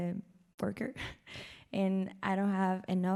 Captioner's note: laughs